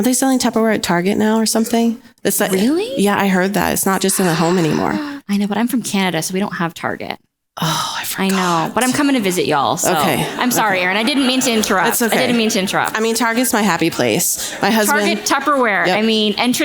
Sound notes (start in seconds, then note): 10.1 audience laughs